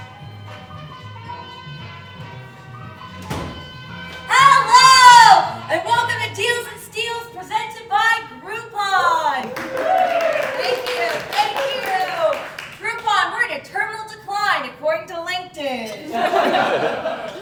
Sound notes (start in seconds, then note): 0.0 game show music plays; 9.3 audience Cheering